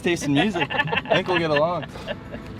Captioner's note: laughing